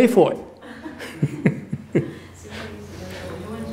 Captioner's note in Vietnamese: laughter